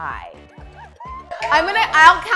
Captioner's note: laughter